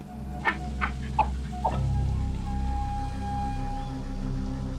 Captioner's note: animal grunting